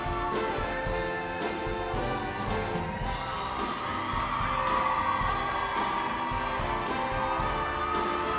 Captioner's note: applause